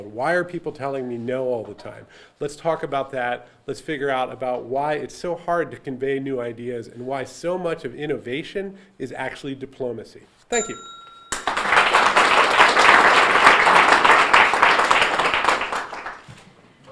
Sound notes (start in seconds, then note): 10.5 bell dinging; 11.3 audience applauding